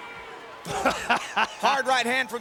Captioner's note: Shane laughs